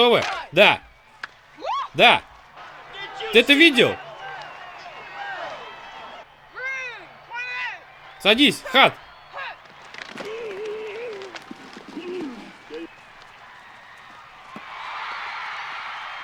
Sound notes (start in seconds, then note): 4.3 indistinct chatter; 9.8 grunting; 14.6 crowd cheering